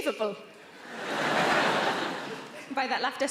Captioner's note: audience laughing